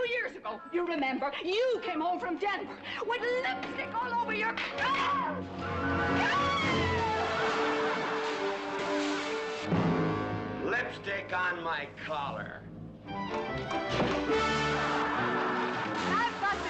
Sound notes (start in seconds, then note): 5.6 screaming; 6.1 gasping; 7.1 people laughing; 14.3 people laughing